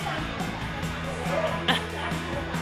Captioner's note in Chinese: 噴笑